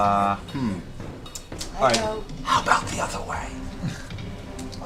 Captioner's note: whispers